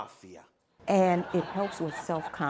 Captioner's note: laughs